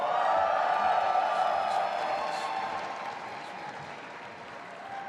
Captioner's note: audience applauding and cheering